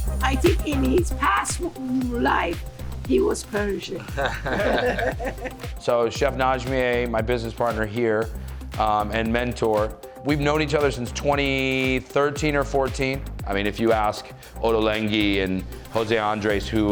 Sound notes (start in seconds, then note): 4.0 both chuckle